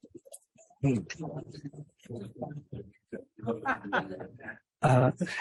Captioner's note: laughter